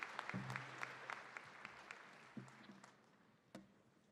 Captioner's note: applause